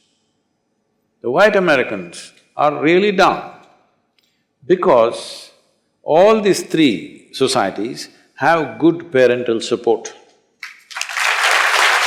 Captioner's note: applause